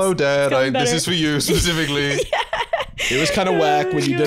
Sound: laughing

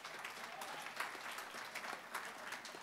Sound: applause

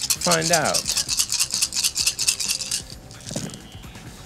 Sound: dice rattling

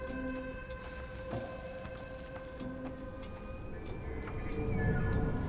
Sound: suspenseful music; footsteps approaching

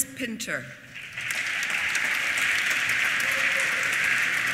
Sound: applause

